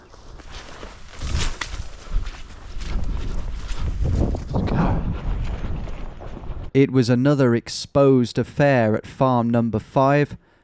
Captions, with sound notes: (branch cracks) (wind whooshing) Let's go. It was another exposed affair at farm number five,